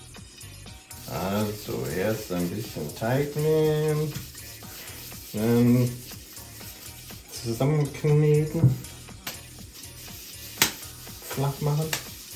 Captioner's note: german